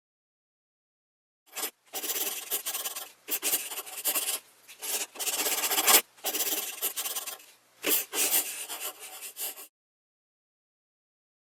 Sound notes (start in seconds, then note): 1.5 scratching sound